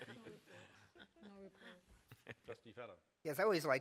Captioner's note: laughter